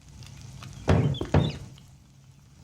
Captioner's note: door thunks shut